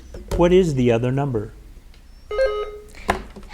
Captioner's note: button buzzing